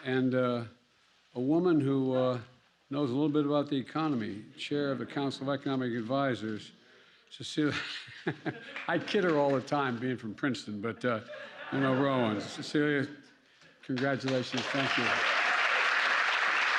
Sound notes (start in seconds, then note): 7.8 laughs; 11.2 laughter; 15.6 applause